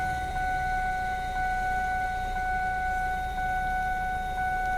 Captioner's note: seatbelt alarm dinging